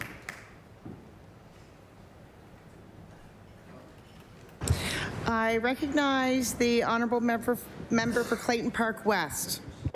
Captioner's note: applause